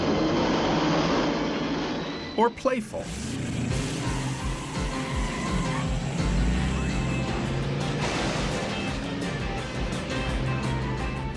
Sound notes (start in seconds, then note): 0.0 dramatic music; 0.0 tires screeching; 2.8 engines revving; 3.0 tires screeching; 3.7 upbeat music; 7.9 metal clunking